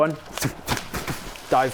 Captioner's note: splash splash splash splash